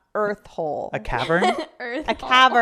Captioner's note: laughing